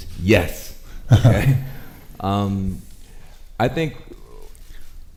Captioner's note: chuckles